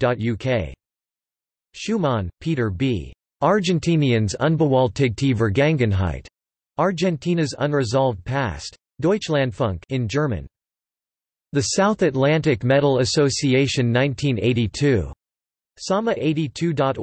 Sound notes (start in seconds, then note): 10.2 in German